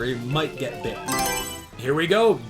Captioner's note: Mario Selection Sound